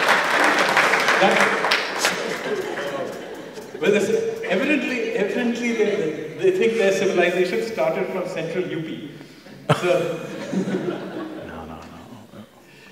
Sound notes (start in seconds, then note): 0.0 laughter/Applause; 9.6 laughter